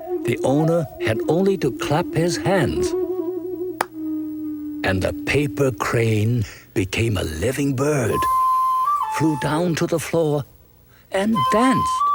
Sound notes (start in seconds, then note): 3.8 hands clapping